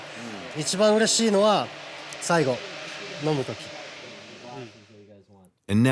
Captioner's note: continues speaking Japanese